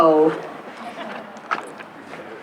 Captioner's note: laughter